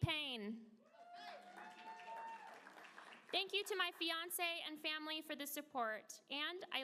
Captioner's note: applause